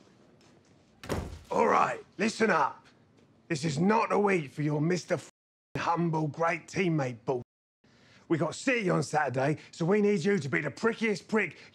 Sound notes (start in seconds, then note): 1.0 door closes